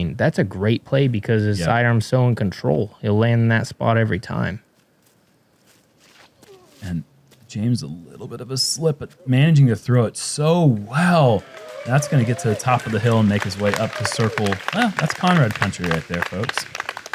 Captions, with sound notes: that's a great play because the sidearm's still in control. It'll land in that spot every time. -James, a little bit of a slip but managing to throw it so well. [applause] [cheering] -That's going to get to the top of the hill and make his way up to circle. That's Conrad country right there folks.